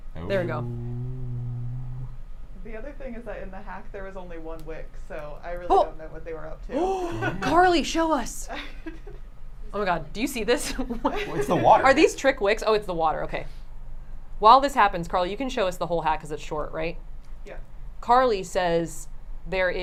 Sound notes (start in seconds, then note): 6.8 gasps; 8.5 laughs; 11.1 laughs